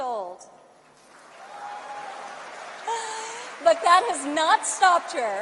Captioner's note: applause